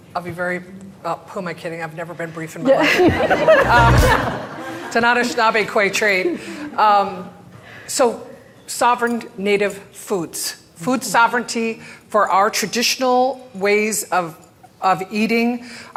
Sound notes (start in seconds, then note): 2.7 crowd laughing